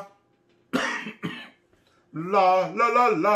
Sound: coughing

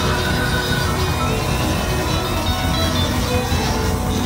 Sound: crowd cheering

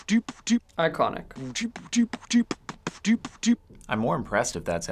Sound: cameraman beatboxing

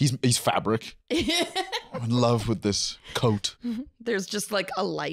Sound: laughing

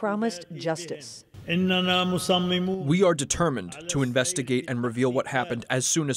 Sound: through translator

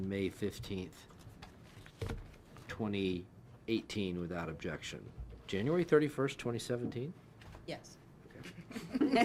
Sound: laughs

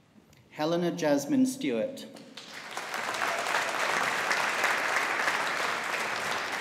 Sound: audience applauding

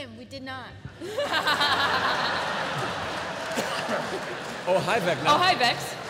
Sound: laughter

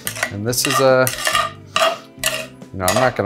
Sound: metal clanking

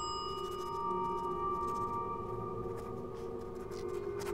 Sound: bell ring

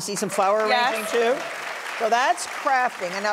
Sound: audience clapping

